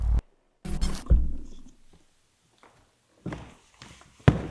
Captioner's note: static crackling